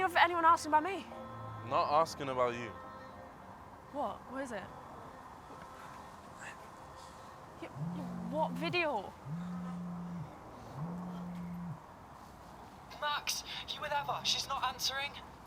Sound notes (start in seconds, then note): 9.2 phone vibrating